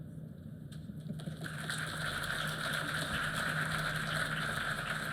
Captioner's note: applause